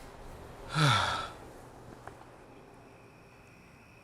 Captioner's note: sigh